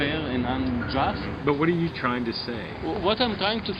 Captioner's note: voiceover